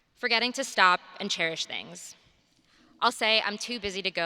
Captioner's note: none